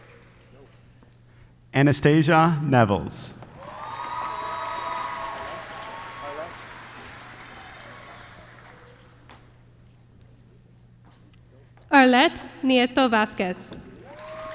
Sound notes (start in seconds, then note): 0.0 applause; 3.4 applause